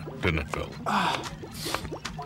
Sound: sniffs

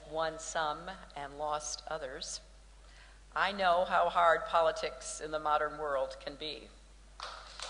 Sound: applause

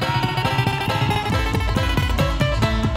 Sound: shouting

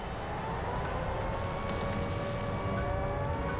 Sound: sirens wailing

